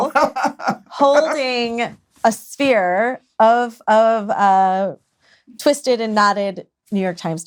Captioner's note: laughs